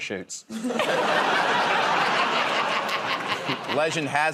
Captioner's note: laughter